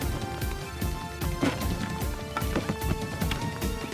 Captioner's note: Window opens